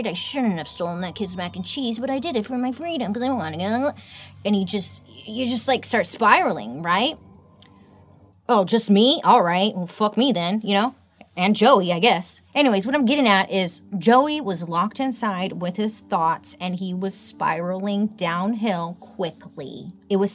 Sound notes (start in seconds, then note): 2.2 groans